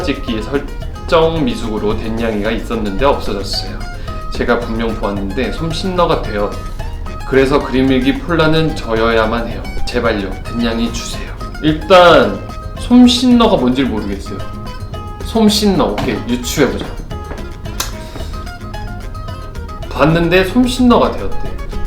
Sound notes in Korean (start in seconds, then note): 18.0 흐음